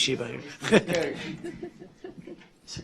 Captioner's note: laughter